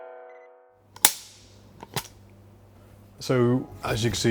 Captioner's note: clapperboard clicking